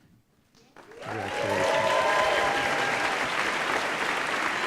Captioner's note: applause